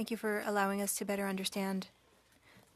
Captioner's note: speaking French